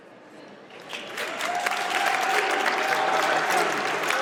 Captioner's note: audience applauds